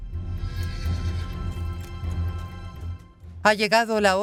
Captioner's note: horse whinnies